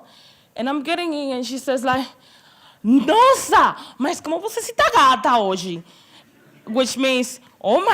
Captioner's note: speaking portuguese